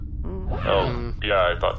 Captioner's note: everyone makes unhappy noises